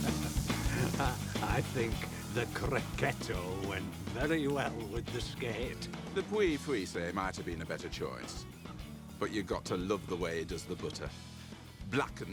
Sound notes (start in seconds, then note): 0.0 chuckles; 7.0 speaking in foreign language